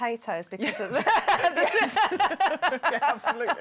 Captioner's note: laughter